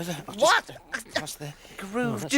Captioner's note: yelps